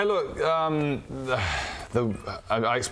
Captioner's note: sigh